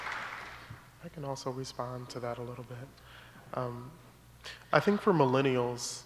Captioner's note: applause